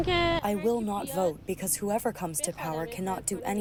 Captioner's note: through translator